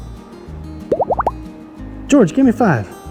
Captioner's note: emoji popping